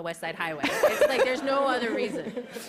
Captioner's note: laughter